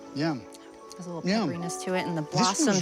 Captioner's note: plants crunching